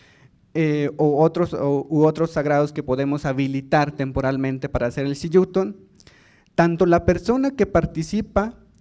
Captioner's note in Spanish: habla en lengua indígena